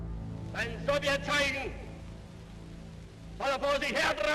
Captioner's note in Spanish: voz en alemán